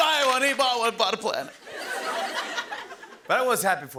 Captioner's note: laughter